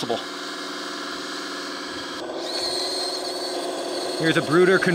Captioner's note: bulldozer motor rumbling